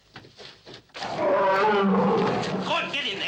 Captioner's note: gorilla roaring